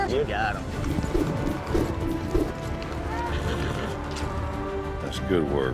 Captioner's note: twirling rope